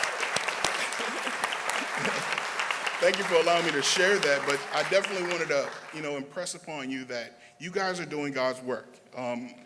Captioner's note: applause